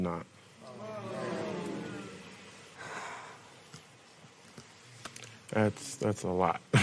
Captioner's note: spectators murmur